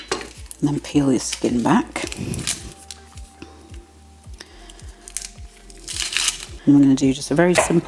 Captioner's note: papery crackle; chop chop chop